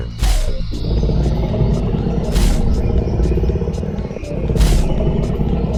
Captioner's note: footsteps stomping; dinosaur growling